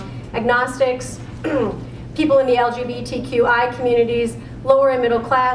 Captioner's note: cough